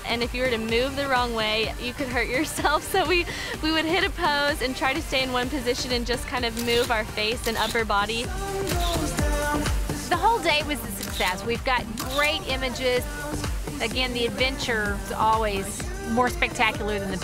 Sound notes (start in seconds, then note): 2.4 chuckles